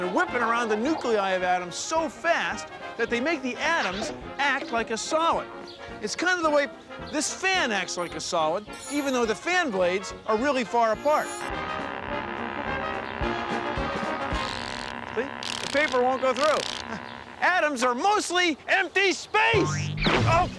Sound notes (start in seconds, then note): 12.7 <i> whirring</i>